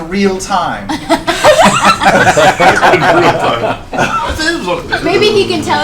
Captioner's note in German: Gelächter